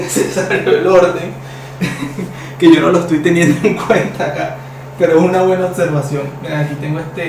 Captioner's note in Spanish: risas